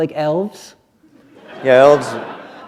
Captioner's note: laughter